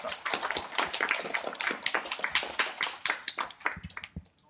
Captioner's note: applause